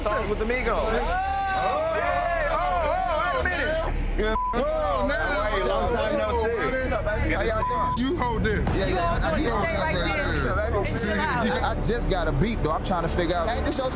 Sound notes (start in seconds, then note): 4.3 beeping